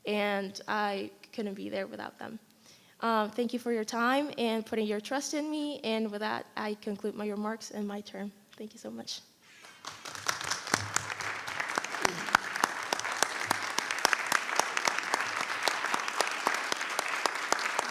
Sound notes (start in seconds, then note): 12.8 applause